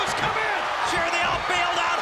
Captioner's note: audience cheers